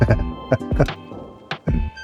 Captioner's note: laughs